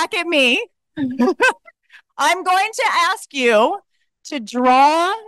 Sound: laughs

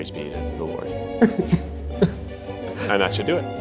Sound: laughs

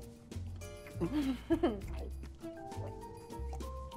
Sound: laughing

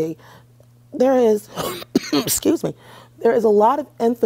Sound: coughs

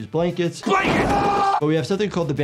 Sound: screaming

